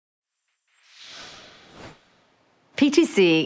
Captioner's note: air whooshes